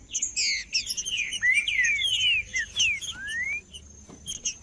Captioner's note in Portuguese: trinca ferro cantando